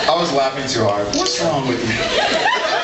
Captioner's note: laughs